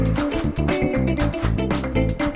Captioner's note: screen scrolling